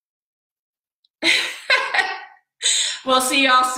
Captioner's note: laughing